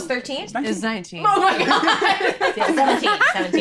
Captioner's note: laughing